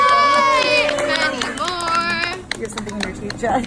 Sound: cheering; clapping

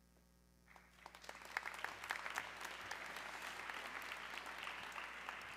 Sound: audience clapping

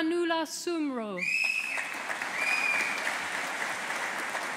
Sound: audience applauding

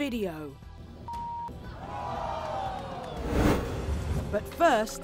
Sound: audience gasping; beeping

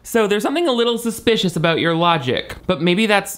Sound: none

